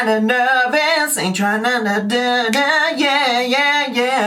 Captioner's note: humming